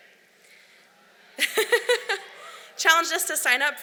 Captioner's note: laughs